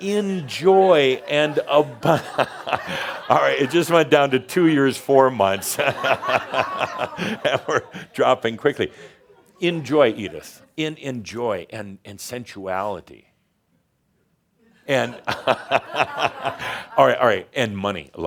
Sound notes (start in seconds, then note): 0.0 laughter; 0.4 Adamus laughs; 5.6 more laughter; 14.8 makes another face and more laughter